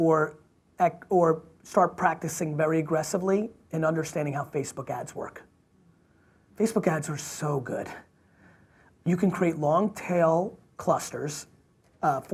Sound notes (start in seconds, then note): none